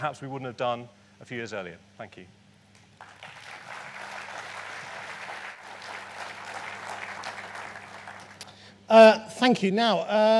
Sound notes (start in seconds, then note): 2.8 applause